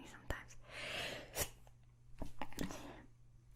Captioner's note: sneezes